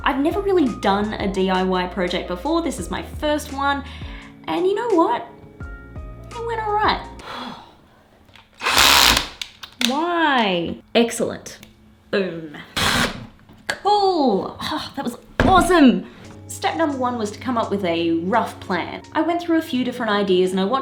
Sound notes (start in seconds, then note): 7.2 sigh; 8.5 drilling; 12.7 drilling